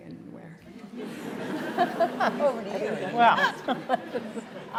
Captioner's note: laughter